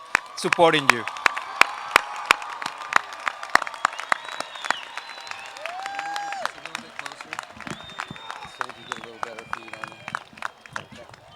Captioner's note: applause